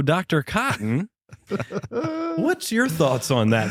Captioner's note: laughter